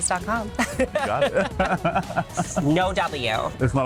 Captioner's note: both laughing